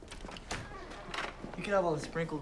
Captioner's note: door latch clicks